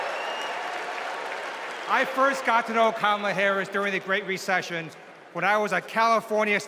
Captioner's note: cheers and applause